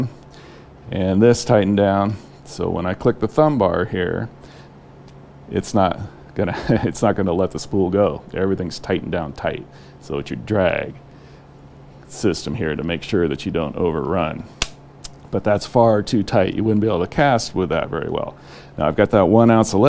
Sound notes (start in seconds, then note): 6.5 chuckling; 15.0 click